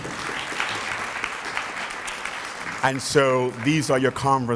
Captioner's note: applause